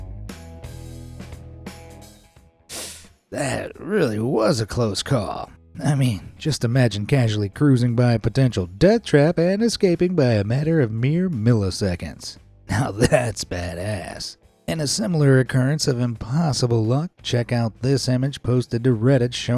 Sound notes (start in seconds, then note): 3.3 winces